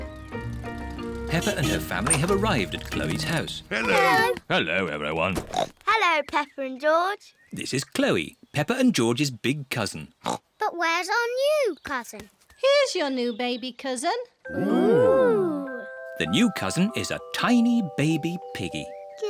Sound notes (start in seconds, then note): 10.2 oinks